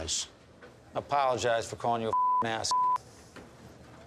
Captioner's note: beep